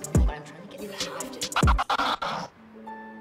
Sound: record scratch

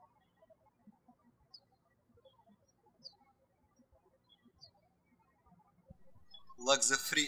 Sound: birds chirping

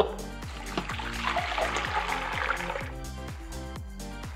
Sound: water splashing

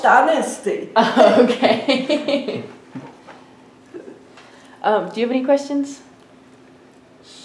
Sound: laughs

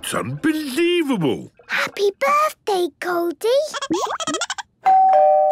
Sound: Goldie giggling; doorbell ringing

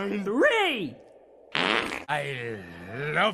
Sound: fart heehee

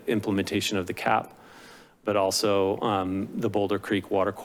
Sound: inhales

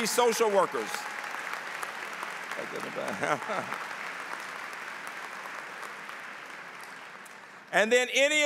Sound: applause

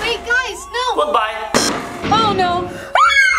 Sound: hand thuds; screams

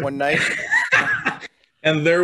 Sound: laughs

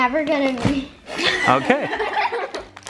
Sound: kids laughs together

